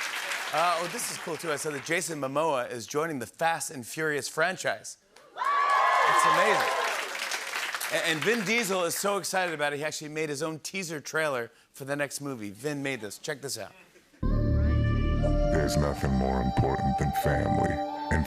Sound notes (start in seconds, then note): 5.3 cheers and applause